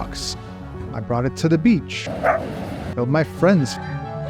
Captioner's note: dog barking